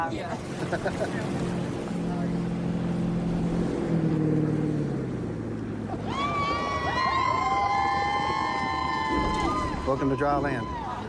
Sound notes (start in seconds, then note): 3.6 laughs; 5.9 cheers